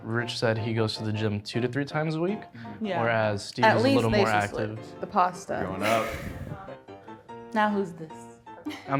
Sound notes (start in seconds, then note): 5.8 laughs